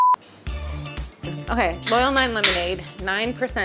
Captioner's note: disco music; can popping